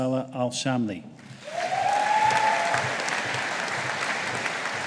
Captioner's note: audience applauding